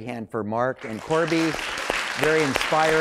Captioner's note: applause